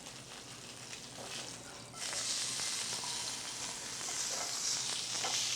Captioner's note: sizzling